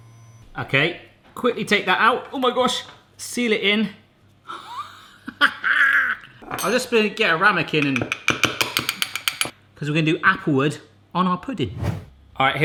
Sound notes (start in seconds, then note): 4.6 laughing